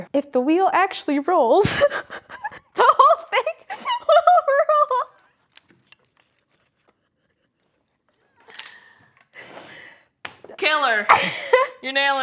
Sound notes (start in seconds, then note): 1.6 laughing